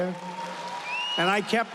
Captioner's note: cheering